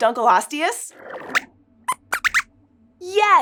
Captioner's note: squeaks squeaks